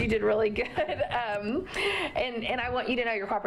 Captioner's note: laughter